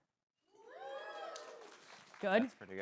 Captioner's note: some cheering